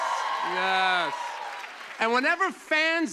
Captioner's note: cheers and applause